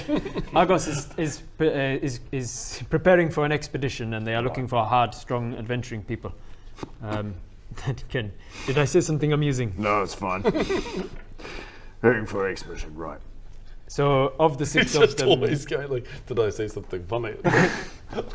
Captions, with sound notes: Argos is is is...is preparing for an expedition and they are looking for hard strong adventuring people *scoffs* that can...did I say something amusing? No, it's fine Recruiting for an expedition, right So of the six towns He's just always going like 'did I say something funny?'